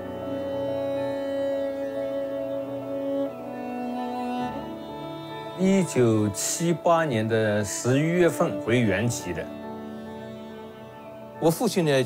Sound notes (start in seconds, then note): 0.1 melancholic music; 5.8 speaks in Chinese language